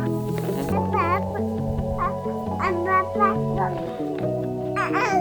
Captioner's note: babbles